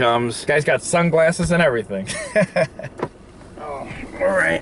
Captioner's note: laughing